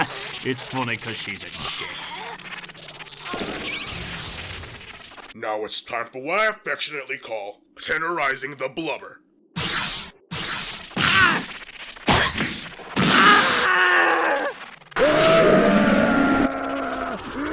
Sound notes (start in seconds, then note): 12.9 GOHAN screams; 15.0 MR. SATAN screams